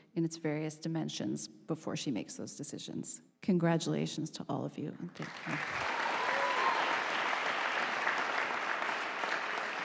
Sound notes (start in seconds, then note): 5.2 audience applauding